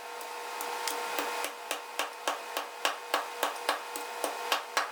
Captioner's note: pestle tapping